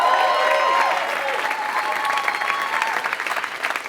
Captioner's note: applause